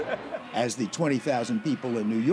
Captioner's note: laughter